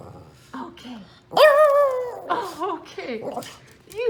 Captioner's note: happy growl; roar